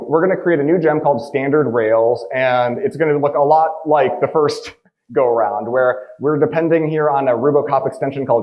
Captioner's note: none